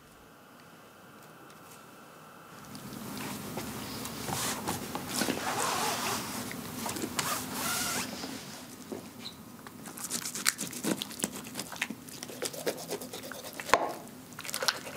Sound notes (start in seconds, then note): 5.0 scratching noises; 9.8 cutting noises